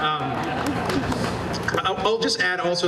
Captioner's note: laughter